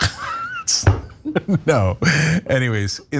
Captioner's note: laugh